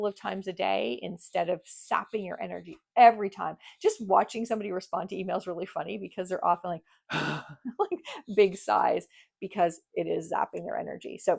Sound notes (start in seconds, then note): 7.1 sighs